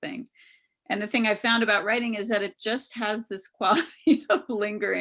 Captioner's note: laughs